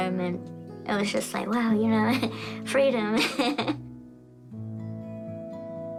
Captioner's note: laughs